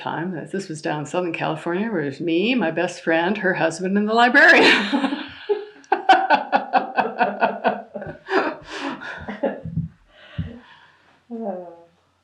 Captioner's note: laughter